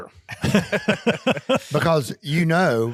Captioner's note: group laughing